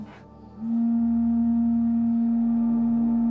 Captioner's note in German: Dumpfer, langgezogener Pfeifton